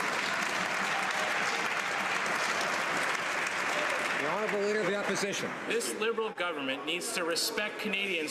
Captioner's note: some Applause